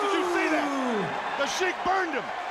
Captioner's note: crowd cheering